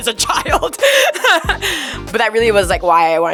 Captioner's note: Barbie laughing